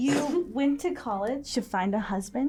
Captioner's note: Dalia snorts